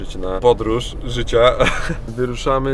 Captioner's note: laughs